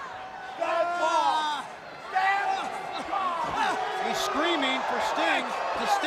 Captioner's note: crowd chatter